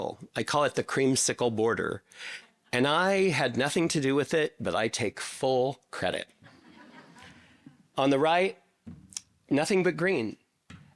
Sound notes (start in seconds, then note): 6.4 audience laughing